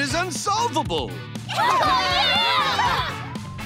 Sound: cheering

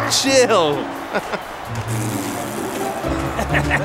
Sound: laughing

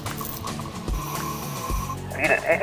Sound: air hisses

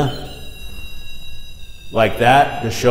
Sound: device whirring

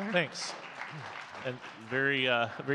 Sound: audience clapping

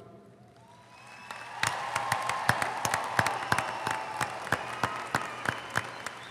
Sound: audience applauding; audience cheering

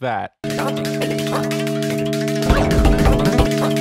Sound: phone dial tone; distant sped-up song; sped-up song; phone dial tone grows louder; distant sped-up song

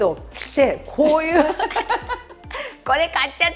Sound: laughs

